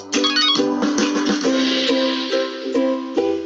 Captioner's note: phone ringing